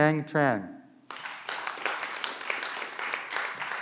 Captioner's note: clapping